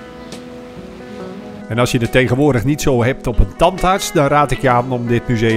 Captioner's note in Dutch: Voiceover